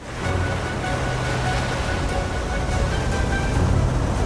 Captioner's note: waves crashing; dramatic music